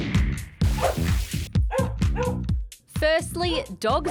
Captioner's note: barking